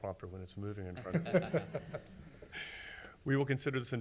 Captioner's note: everyone laughs